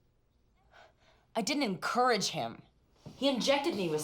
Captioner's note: scoffs